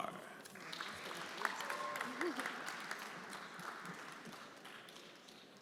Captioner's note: everyone applauding